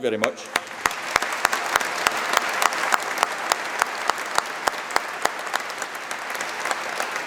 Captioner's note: applause